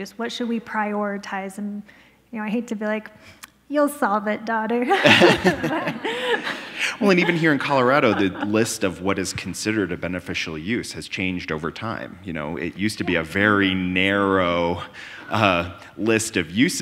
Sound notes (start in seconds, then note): 4.9 both laughing